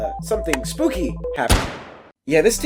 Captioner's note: gunshot